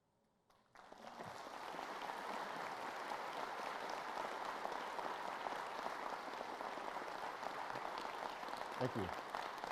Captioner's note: applause